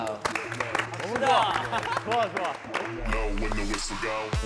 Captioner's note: everyone cheers